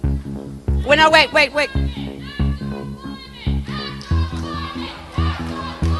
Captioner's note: act on climate chant from protestors